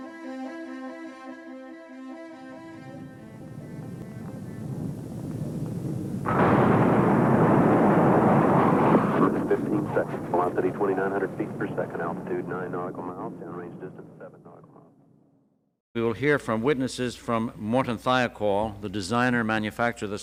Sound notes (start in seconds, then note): 4.5 fire rumbling; 8.0 explosion blasts; 11.0 radio Communication